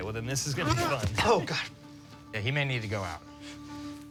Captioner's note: gags